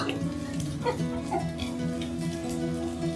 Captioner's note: laughs